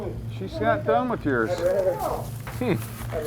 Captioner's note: voiceover